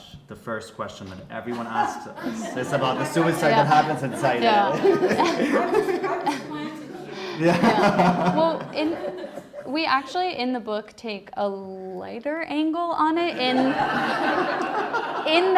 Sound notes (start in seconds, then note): 5.3 all laughing; 13.3 audience laughing